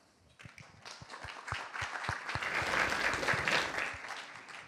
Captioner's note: applause